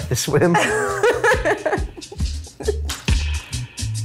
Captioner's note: laughs